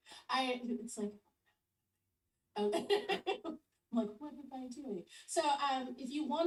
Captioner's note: laughs